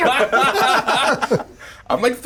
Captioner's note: everyone laughing